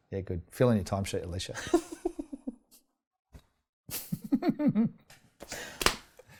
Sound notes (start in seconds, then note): 1.6 laughs; 4.2 laughs